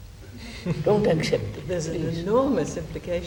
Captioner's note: laughter